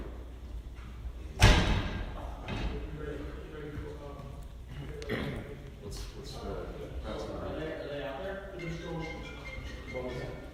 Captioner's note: 51:02 door